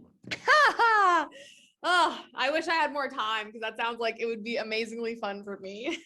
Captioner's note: laughs